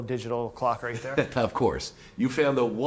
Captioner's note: chuckles